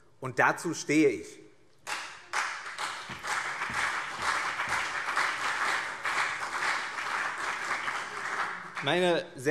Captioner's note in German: Beifall CDU und BÜNDNIS 90/DIE GRÜNEN